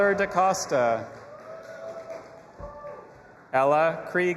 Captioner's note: audience applauding and cheering